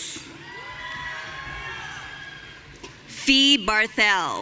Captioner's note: audience cheering